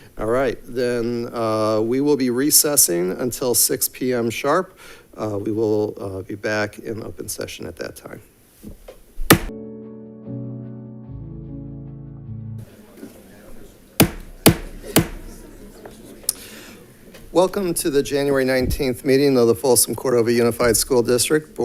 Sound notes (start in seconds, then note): 9.2 gavel bangs; 9.5 gentle music; 14.0 gavel bangs; 14.2 crowd chatting